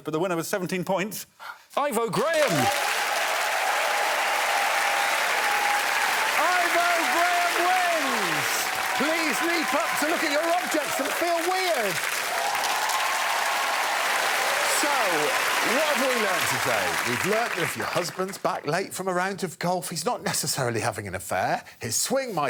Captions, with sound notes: Frankie and Mae are in joint second place but the winner with 17 points. Ivo Graham. [cheering and applause] Ivo Graham wins. Please leap up to look at your objects and feel weird. So what have we learnt today? We've learnt that if your husband's back late from a round of golf